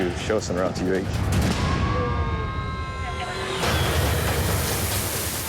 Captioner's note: sirens